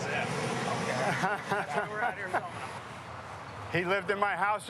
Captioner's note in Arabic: يضحك